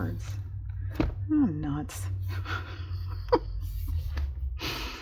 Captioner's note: laughs